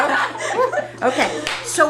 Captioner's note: laughter